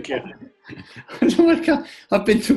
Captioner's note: laughing